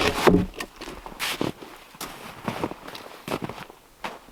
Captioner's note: log thumps